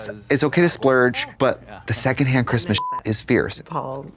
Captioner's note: beep